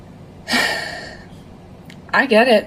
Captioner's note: sighs